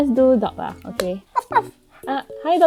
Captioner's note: barks